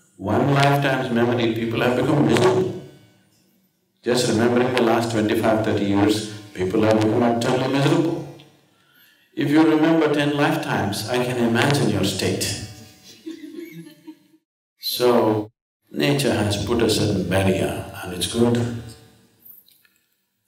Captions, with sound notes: One lifetime's memory people have become miserable. Just remembering the last 25-30 years, people have become utterly miserable. If you remember ten lifetimes, I can imagine your state. (Few laugh) So, nature has put a certain barrier, and it's good.